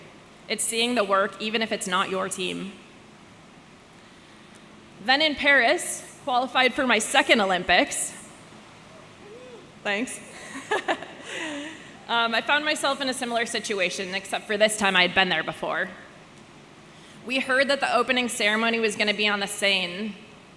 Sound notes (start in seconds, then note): 10.4 person laughing